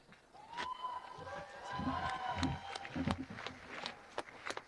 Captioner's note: audience cheering